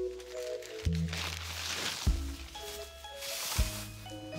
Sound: paper crinkling

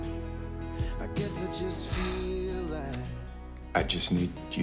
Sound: sighs

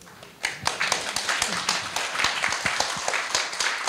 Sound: audience applauds

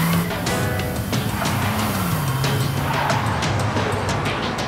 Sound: tires screech

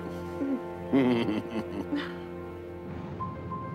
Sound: chuckles

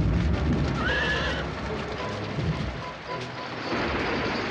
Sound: horse whinnying; dramatic music

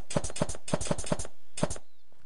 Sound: nail gun noise

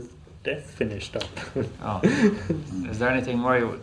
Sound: laughs

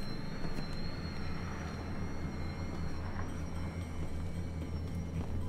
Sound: high pitched tone

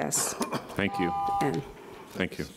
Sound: beep

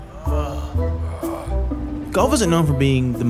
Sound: man groaning; whimsical music

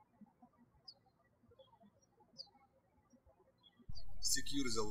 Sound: birds chirping

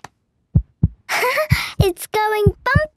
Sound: heart beating

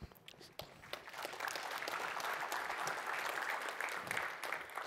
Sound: applause

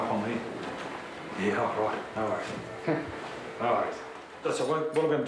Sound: chuckles

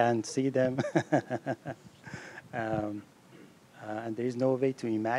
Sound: laughing

